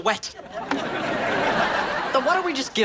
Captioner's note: audience laughs